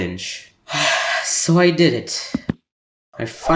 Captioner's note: sigh